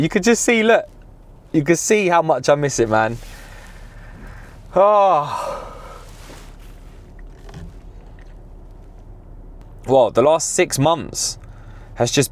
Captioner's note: yawns